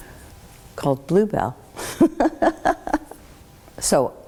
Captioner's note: laughs